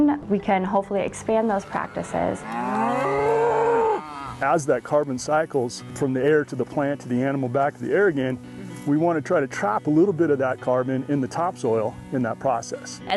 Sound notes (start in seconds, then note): 1.4 cows mooing